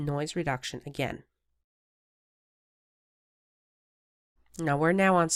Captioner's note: silence